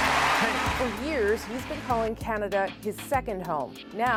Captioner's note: applause